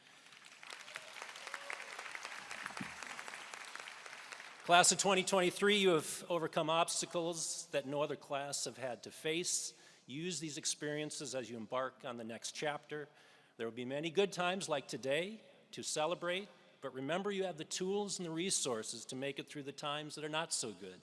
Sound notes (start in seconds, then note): 5.5 applause